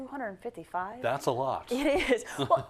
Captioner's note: laugh